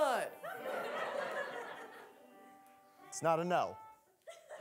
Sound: audience laughing

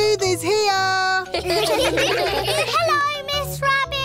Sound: children giggle

